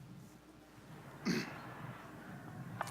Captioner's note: clears throat; laughter, shouting